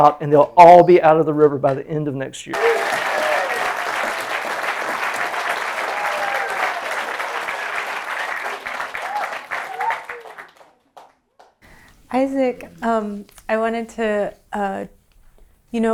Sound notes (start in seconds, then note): 2.5 applause